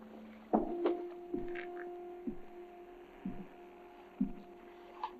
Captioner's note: Adam's footsteps